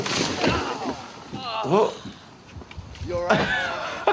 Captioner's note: Steve-O grunts; laughing